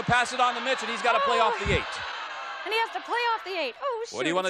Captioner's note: audience yells